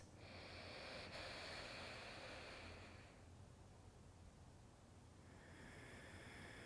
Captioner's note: inhaling and exhaling